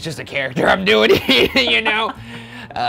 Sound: laughing

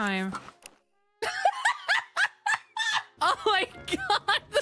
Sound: laughter

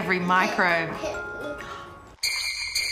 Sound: gasps

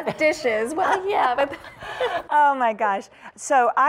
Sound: laughter

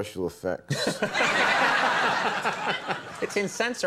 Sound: audience laughing

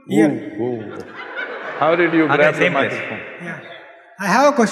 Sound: laughter

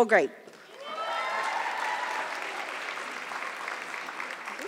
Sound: audience clapping

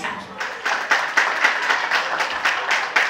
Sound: applause

